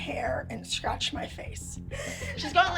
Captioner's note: crying